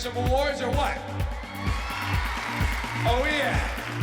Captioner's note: cheering and applause